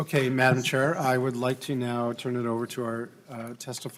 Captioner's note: gavel